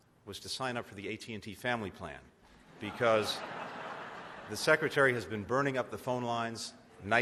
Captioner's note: laughter